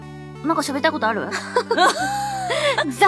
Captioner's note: laughs